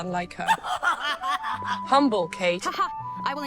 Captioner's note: Katy laughs